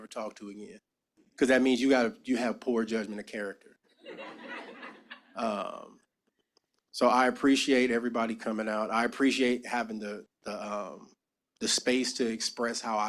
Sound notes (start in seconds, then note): 4.0 laughter